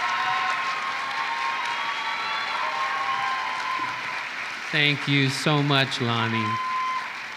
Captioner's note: applause